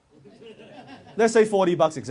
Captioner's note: audience members mumble and laugh